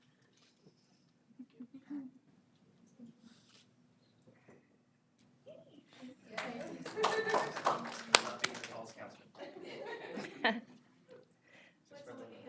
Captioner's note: applause